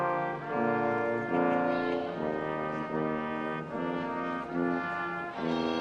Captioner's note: none